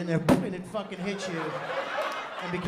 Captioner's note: laughter